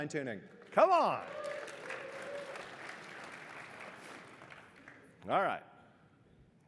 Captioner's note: applause